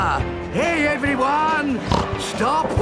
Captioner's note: snorts